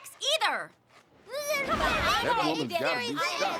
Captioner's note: all shouting